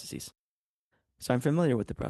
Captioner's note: speaking in French